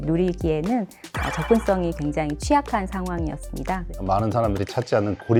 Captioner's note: emphasizing sound effect